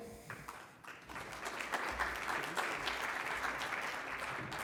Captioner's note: congregation clapping